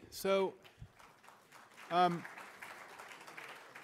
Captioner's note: applause